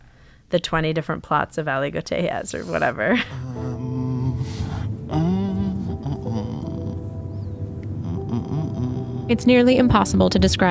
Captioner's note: humming sounds